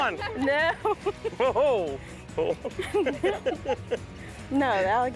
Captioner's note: all laughing